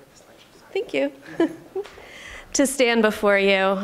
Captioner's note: laughing